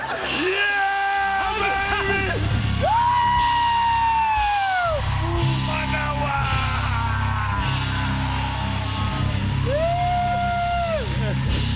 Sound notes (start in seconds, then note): 5.1 cheers and applause